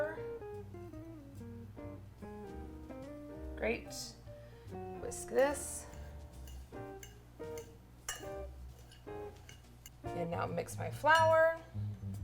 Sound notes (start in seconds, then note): 0.3 bright jazz music; 6.0 fork clanging